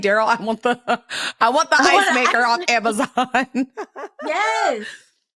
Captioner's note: chuckles